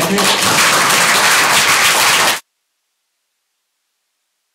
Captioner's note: applause